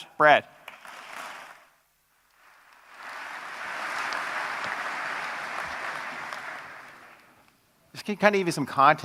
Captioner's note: applause